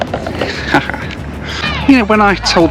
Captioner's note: laughs